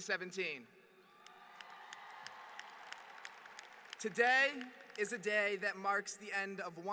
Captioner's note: applause